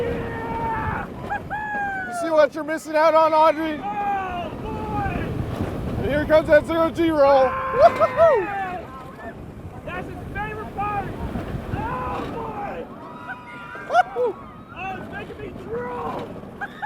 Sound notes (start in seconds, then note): 7.4 screaming